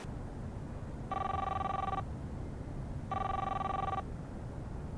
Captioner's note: cellphone ringing